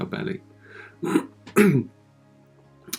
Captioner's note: clears his throat